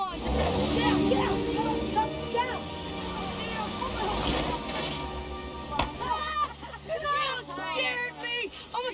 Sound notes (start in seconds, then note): 1.8 engine revving